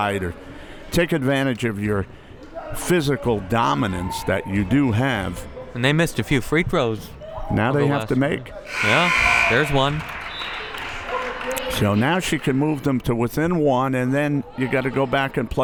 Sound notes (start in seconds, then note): 8.6 buzzer; 10.5 whistle